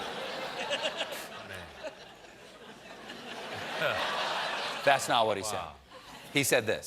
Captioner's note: laughter